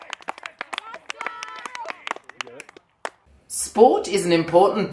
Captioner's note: applause